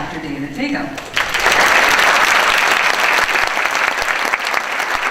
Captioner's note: audience applauds